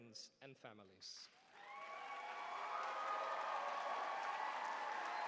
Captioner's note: cheering